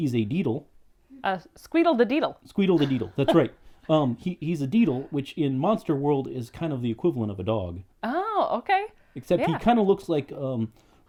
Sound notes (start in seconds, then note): 2.7 laughs